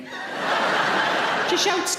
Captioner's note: audience laughing